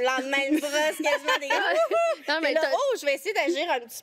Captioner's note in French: rires